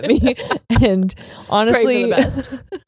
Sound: laughs

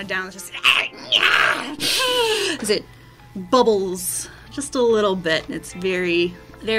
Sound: goblin pain screeches

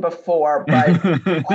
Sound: chuckle

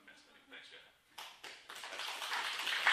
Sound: applause

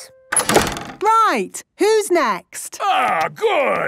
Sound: doors slamming

